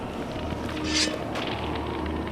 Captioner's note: sword unsheathed